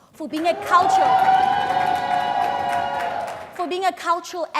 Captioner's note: crowed cheers